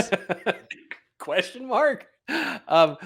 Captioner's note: laughing